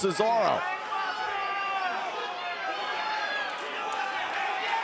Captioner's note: crowd shouting